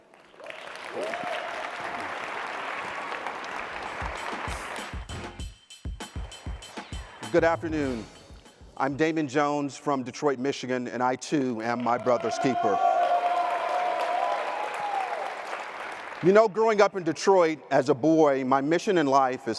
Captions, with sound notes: (audience applauding) (upbeat music) - Good afternoon. I am Damon Jones from Detroit, Michigan, and I too, am my brother's keeper. (audience applauding) You know growing up in Detroit, as a boy, my mission in life,